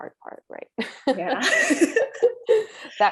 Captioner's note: laughter